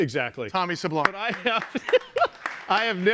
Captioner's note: laughing